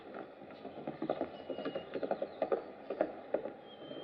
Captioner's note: galloping